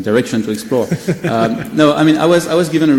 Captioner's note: laughs